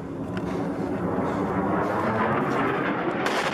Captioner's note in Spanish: rugidos